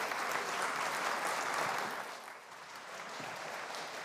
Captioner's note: applause